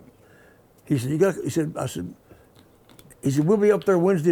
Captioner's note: stammers